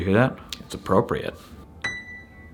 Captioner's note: dinging